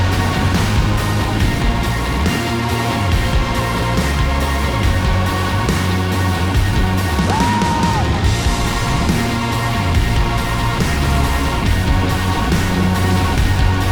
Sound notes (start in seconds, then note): 7.2 man whooping; 10.3 upbeat electronic music